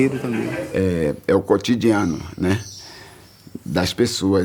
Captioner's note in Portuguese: pássaros chilreando